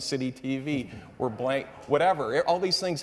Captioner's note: audience members laughing